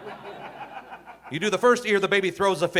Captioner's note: audience laughing